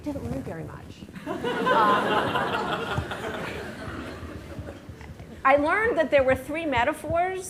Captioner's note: laughter